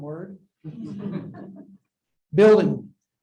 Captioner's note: laughter